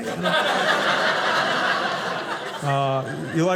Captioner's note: audience laughing